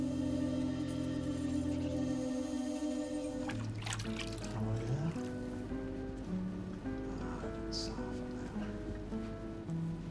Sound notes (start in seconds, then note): 5.4 man chattering